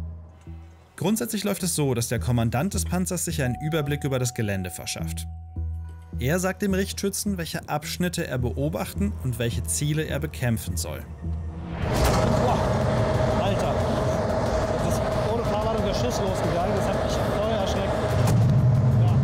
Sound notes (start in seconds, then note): 11.7 bang; 14.7 loud engine noises